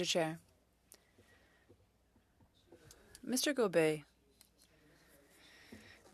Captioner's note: speaking French